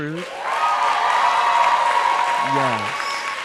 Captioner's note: crowd cheering